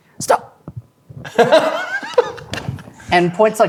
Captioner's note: laughing